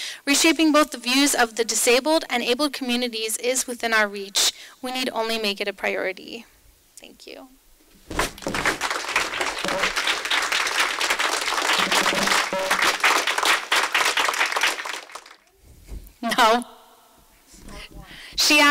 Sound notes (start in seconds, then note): 8.2 applause; 16.2 chuckles